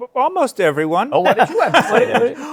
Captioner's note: laughter